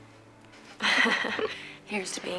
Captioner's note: laughing